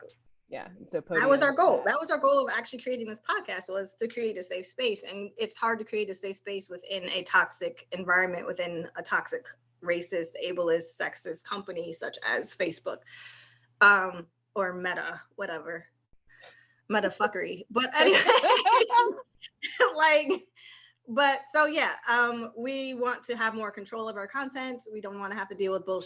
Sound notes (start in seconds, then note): 18.0 laughter